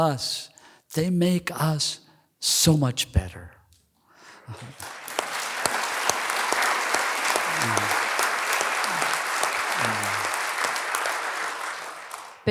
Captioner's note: applause